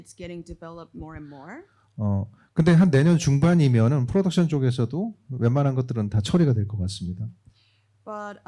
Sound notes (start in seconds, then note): 2.5 speaking korean